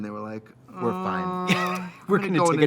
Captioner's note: laughing